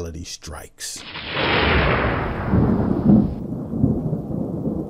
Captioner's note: thunder crashing